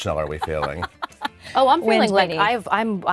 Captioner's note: chuckling